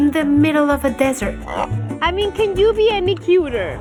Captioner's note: grunts